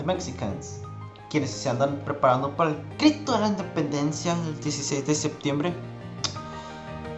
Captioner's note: speaking in Spanish